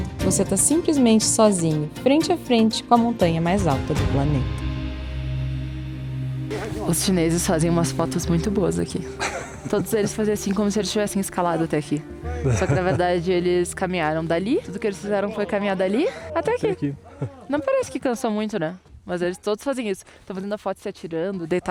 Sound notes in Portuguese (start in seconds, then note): 9.1 risadas